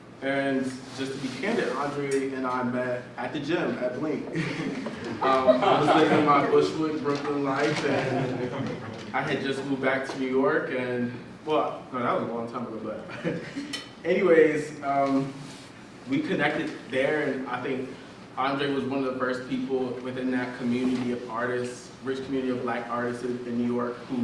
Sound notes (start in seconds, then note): 4.4 audience laughs